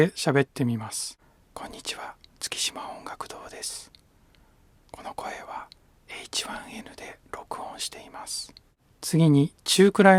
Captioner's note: there is an auto level. Whispering voice